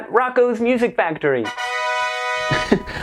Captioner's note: horn blasting